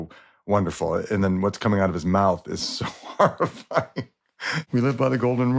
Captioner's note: laughs